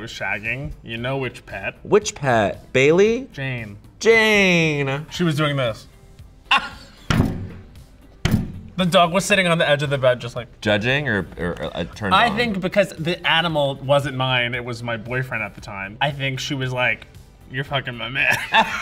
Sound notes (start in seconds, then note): 6.4 Bowen laughs